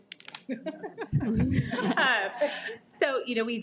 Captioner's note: laughs